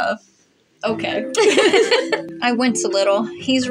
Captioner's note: both Laugh